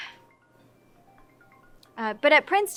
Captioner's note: sighs; phone ringing